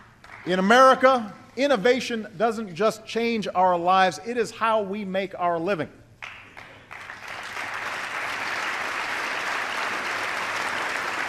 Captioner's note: applause